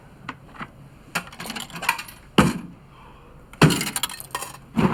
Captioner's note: clanking